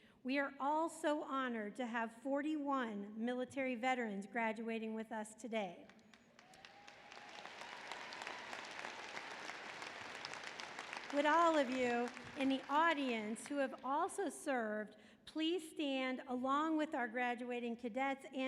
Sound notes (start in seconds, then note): 6.5 applause